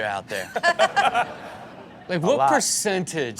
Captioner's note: everyone laughs